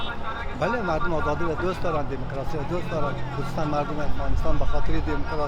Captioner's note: speaking in a foreign language